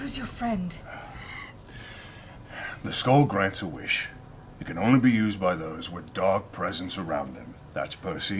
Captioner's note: sighs